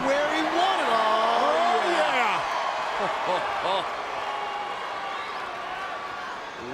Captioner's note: audience cheers